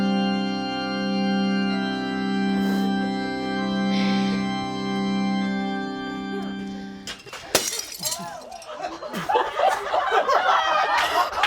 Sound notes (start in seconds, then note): 7.0 cracking; 8.0 laughing; 10.7 clapping